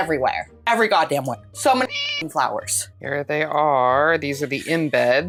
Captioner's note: meow